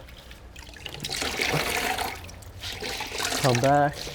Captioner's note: splashing